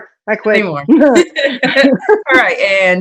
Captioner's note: laughing